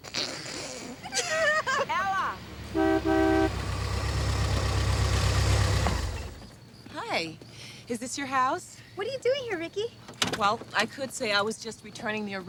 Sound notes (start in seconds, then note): 1.0 laughter; 2.7 car hooting